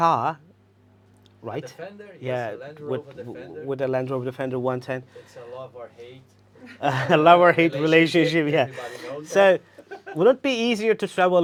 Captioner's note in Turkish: Gülüşmeler